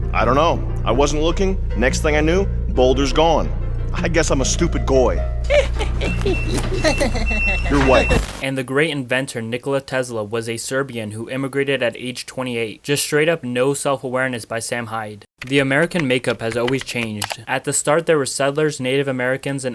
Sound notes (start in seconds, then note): 5.4 laughing in background